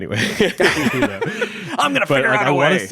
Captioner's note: everyone laughs